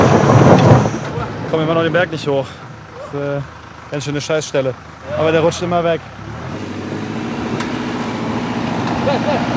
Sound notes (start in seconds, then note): 6.4 engine noises, scraping noises